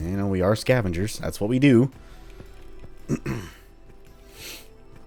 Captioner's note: clears throat